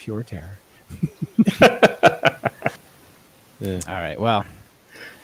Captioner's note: laughing